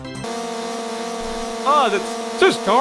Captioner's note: whining car engine noise